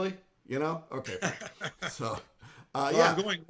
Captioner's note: laughing